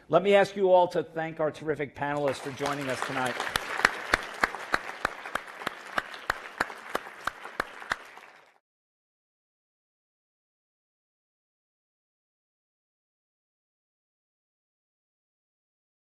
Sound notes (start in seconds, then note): 8.1 applause